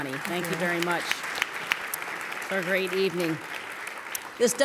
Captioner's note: applause